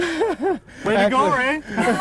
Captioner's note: laughing